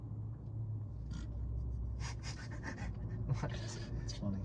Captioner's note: both snicker